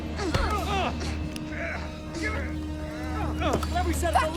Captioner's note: both grunt, struggle